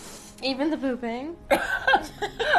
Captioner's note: both laughing